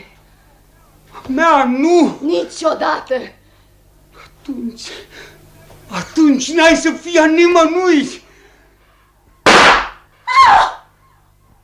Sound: gunshot

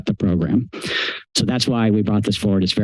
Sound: inhales

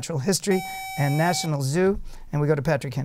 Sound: buzzer

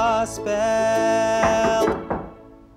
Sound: knock

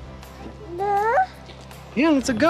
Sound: baby babble

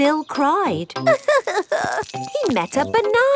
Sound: crying

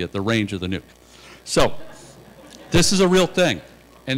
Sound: laughter

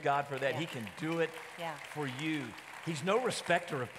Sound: audience applauding

